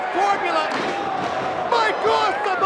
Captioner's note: chair clunks